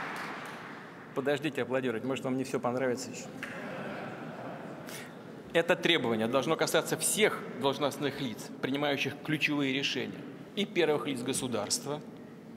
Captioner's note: laughter